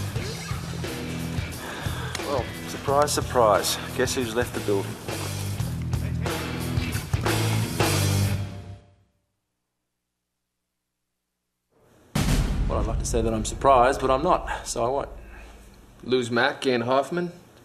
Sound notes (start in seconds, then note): 0.8 sigh